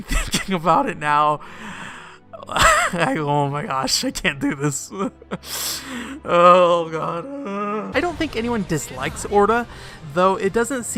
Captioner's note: crying noise